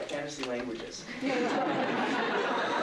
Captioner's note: laughter